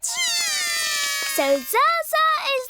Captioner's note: both cry